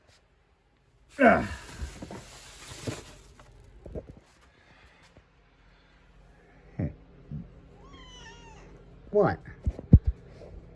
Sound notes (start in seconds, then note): 1.2 grunts and groans; 7.8 meows